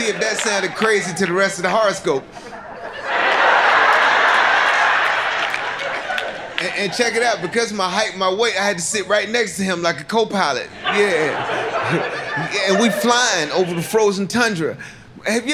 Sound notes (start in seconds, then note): 3.5 audience laughing